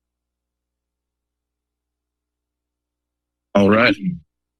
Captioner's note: silence